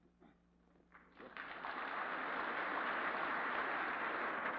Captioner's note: applause